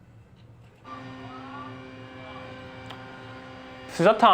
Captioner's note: helicopter propellers whirring